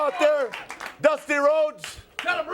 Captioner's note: crowd cheering